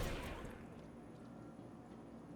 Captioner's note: gun firing